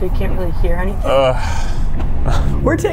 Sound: grunts

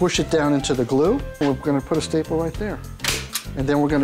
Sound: stapling

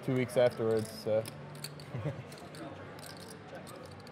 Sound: chuckles

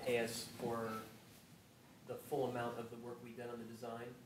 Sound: none

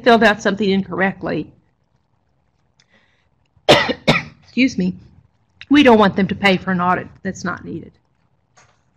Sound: cough

